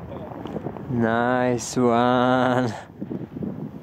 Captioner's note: in English